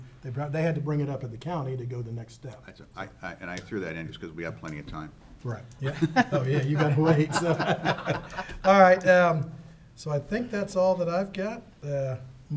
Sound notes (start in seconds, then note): 5.8 laughing